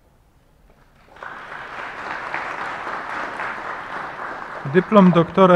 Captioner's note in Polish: oklaski